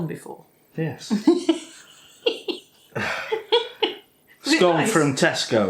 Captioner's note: laffin